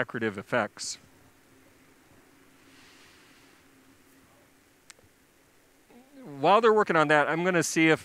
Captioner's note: inhales